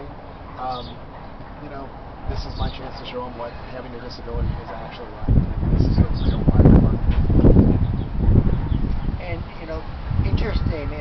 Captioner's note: more rustle of the wind